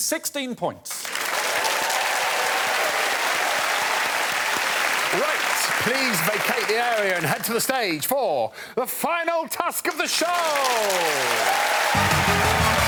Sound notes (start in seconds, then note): 3.0 applause